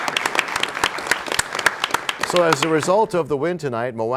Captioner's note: applause